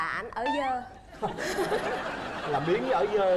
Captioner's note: laughing